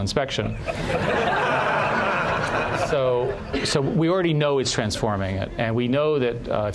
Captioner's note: laughter